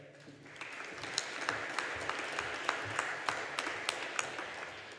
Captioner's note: audience applauding